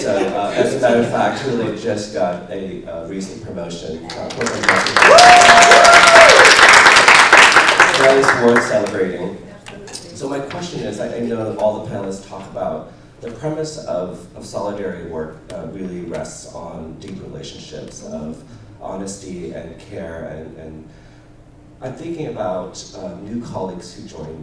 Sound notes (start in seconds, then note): 4.0 applause